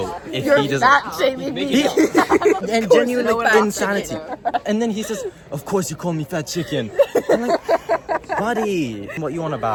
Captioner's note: laughter